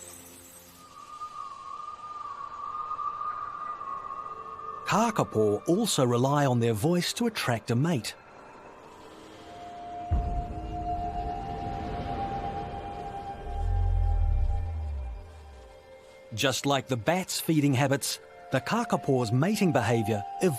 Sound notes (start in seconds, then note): 0.8 wind whistling; 8.6 dramatic music